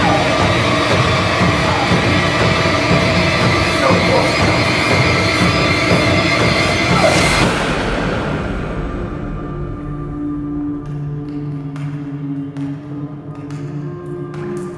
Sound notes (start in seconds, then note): 0.3 dark music; 10.5 water dripping